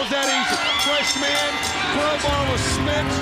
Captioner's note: bell ringing